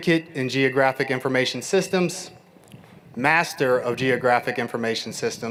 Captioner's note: none